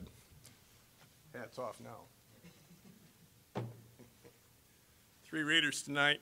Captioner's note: scattered laughing